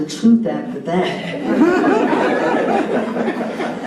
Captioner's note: laughter